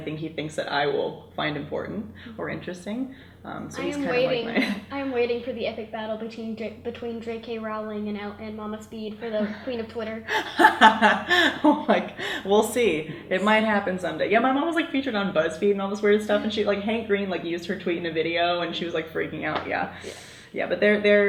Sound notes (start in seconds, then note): 10.2 laughs